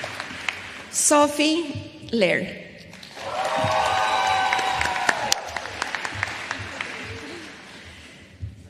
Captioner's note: applause